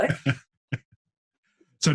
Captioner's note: laughs